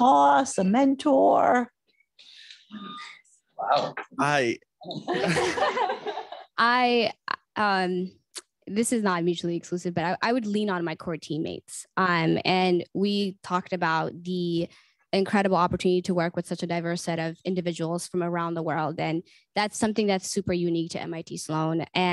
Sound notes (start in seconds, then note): 4.9 laughter